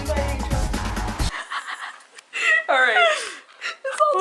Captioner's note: snickers